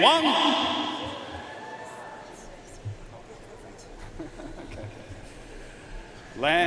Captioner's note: audience cheering and applauding